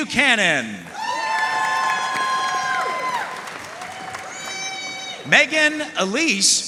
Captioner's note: audience cheering and applauding